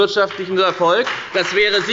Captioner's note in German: Beifall bei der FDP